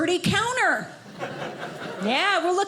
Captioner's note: audience laughing